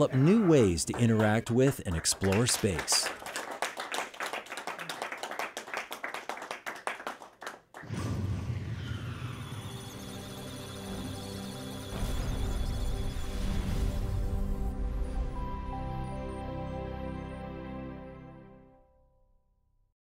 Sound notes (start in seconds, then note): 3.8 team applauds successful rocket launch; 9.6 electronic Sounds of Data; 9.6 musical Tones